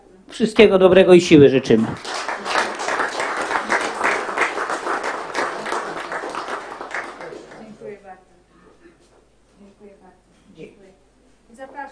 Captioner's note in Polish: oklaski